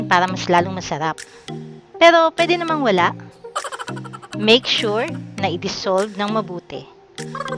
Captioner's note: laughing